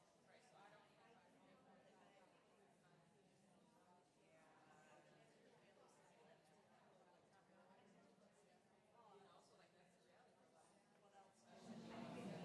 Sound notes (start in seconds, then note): 0.0 background chatter